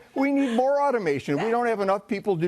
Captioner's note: laughter